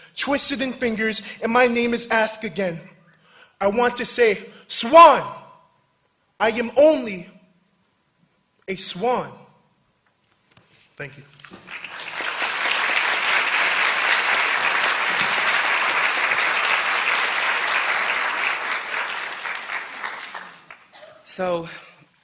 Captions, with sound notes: twisted in fingers and my name is asked again. I want to say Swan. I am only a swan." Thank you. [APPLAUSE]